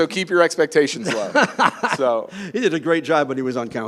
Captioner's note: laughing